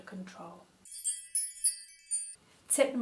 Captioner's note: tinkling bell noise